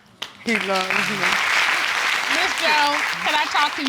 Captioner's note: audience clapping